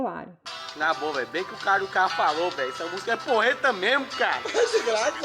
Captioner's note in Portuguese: choro